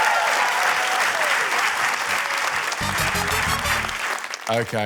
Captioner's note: cheering, applause